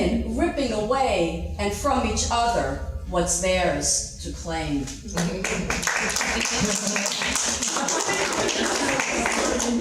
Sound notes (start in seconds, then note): 5.2 audience clapping; 6.9 laughing